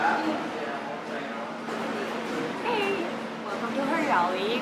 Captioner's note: café chatter